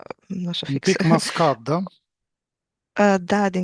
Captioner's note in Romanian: voce dreasă